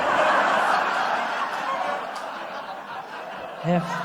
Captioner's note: laughter